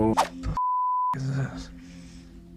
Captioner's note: beep